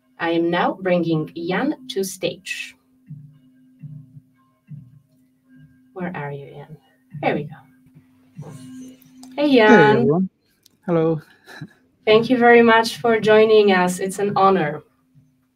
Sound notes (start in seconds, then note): 9.6 laughs